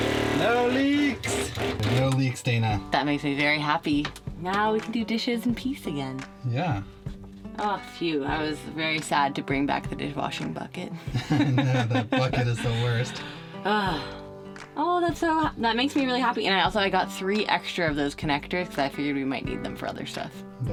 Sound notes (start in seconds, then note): 11.1 chuckling; 12.6 sighs